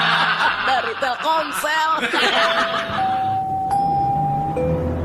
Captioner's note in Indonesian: tertawa